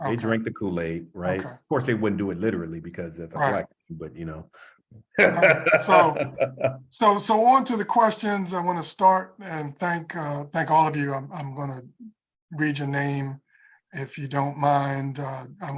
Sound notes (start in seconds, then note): 5.1 laugh